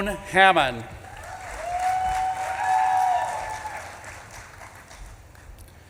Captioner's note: audience claps and cheers